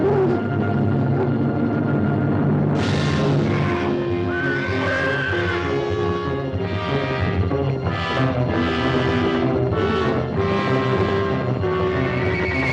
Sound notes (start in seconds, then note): 4.2 horse whinnying; 7.6 dramatic music